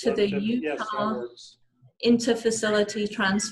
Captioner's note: background radio chatter